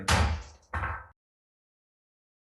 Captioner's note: gavel bangs; silence